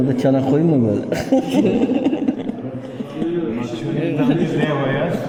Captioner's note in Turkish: kahkaha